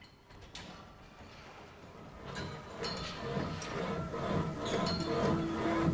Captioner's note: treadmill whirring